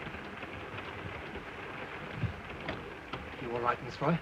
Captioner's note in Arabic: هارتز يتحدث لغة أجنبية; صوت خشخشة القطار